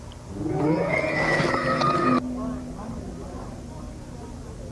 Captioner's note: animal howling; creature screeching